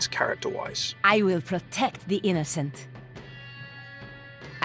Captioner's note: voiceover